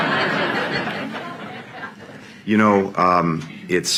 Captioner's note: laughter